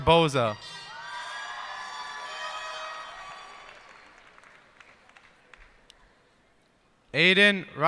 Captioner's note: cheers and applause